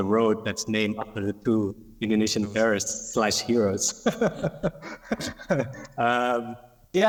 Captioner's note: laughs